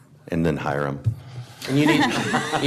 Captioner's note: laughter